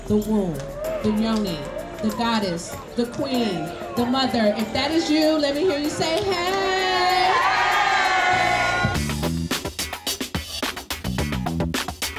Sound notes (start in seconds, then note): 6.3 audience cheering; 9.0 bright funky music